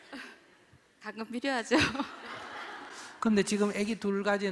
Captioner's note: audience Laughter